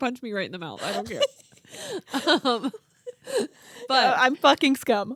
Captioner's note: laughing